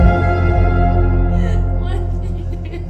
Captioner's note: crying